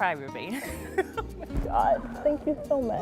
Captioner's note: laughter